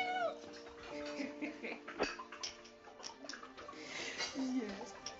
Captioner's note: laughing